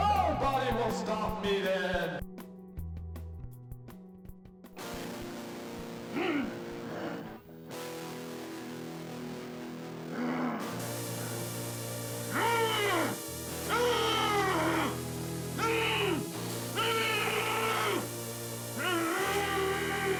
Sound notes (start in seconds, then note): 5.5 hostile guitar riff; 5.5 monster growls; 16.6 monster wailing